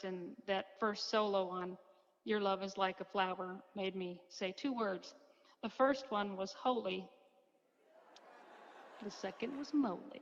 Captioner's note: crowd laughs